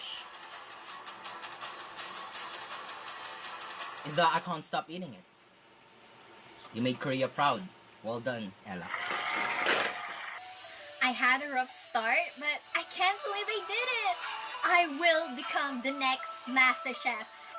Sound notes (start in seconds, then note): 0.2 music intensifies; 9.0 applause; 10.4 happy music plays